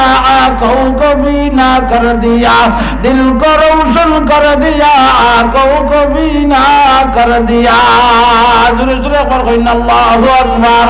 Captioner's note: Urdu poetry